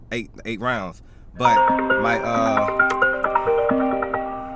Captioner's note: phone ringing